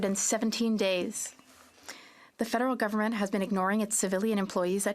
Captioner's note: speaking French